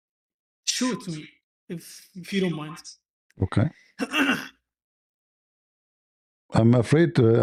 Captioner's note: clears throat